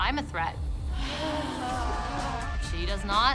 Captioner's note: sighing deeply